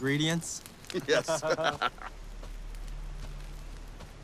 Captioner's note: both laughing